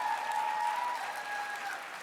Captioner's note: applause